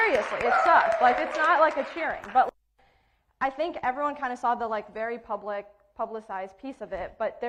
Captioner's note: cheering and applauding